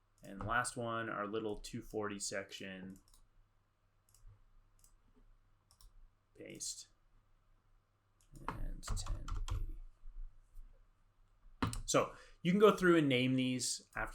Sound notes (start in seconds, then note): 5.7 mouse clicks